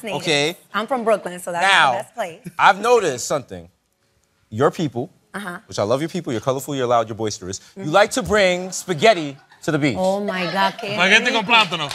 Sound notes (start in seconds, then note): 10.5 spanish